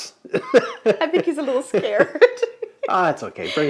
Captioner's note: laughs